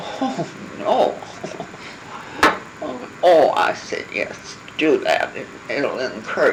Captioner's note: laughing